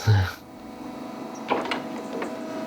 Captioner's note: machine whir